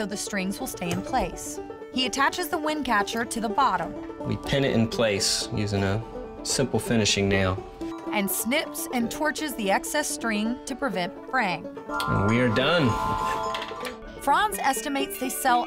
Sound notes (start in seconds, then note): 11.9 chiming